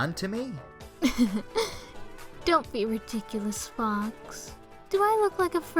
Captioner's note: chuckle